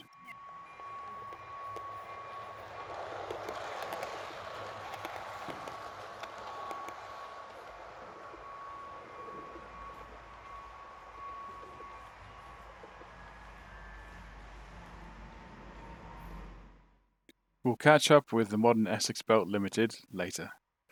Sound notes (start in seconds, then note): 3.2 very nice clickity clack sounds; 11.9 bell is silenced, loud prime mover still heard; 16.2 sound fades